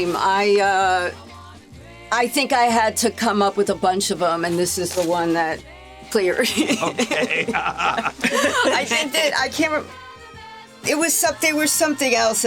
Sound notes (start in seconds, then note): 6.4 laughs; 6.4 all laughing